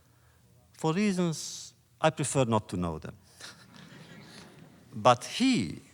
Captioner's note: laughter